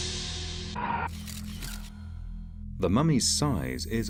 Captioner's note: compelling music; camera clicking